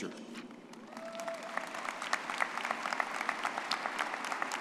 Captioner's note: crowd cheering